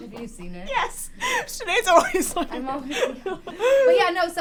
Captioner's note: laughs